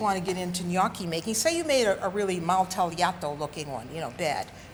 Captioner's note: speaks Italian